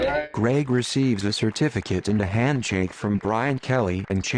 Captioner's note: crowd applauds